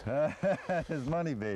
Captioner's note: laughter